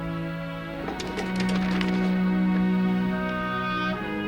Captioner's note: paper crumbles; gentle melancholic music